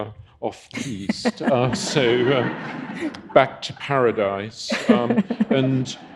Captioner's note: audience laughing